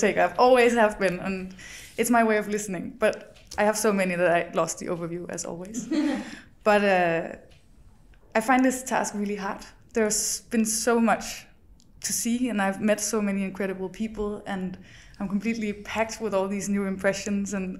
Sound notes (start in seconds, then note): 5.7 guests laugh